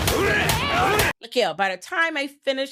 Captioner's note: grunting